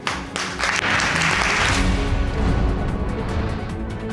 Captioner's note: audience applauding